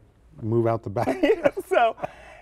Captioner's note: laughter